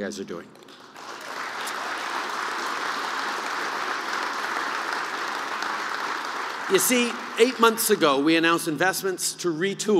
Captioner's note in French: Applaudissements